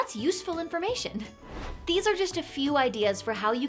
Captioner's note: air whooshing